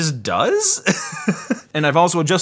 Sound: laughs

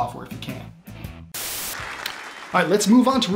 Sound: static hissing

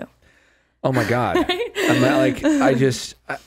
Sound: laughing

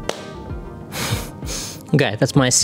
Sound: sighs

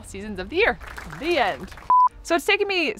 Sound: applause

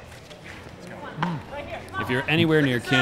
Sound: ball bouncing; chattering

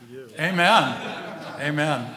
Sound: laughing

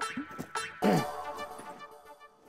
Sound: clears throat

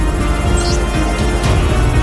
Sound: alphabet displayed sound

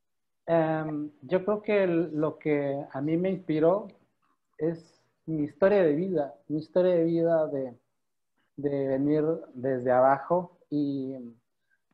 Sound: in Spanish

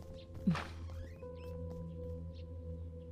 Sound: door opening

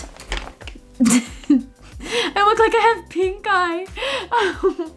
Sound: laughs

